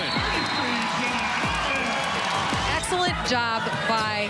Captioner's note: crowd cheers